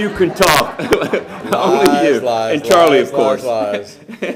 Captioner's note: laughter